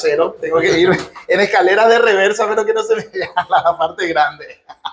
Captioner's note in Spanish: risas